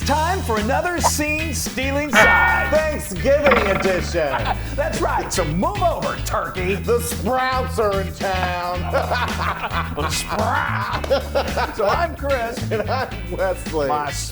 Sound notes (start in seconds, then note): 8.6 laughs